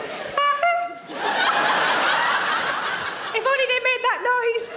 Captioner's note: horn honks